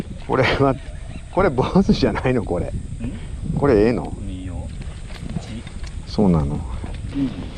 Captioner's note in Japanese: ん？